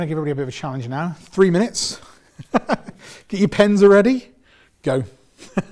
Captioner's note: laughs